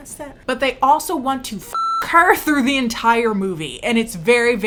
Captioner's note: beep